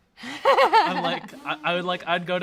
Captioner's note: laughs